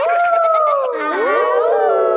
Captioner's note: howling; kids howling